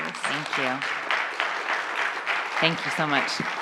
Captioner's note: audience applauding